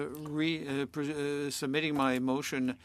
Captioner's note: speaking French